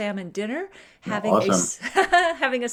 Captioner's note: laughing